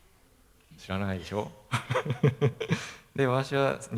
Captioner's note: laugh